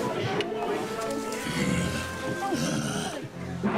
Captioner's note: snarling